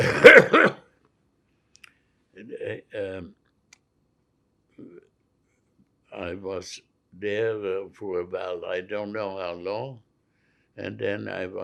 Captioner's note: coughing